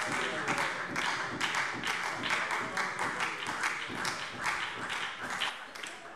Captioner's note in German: Beifall SPD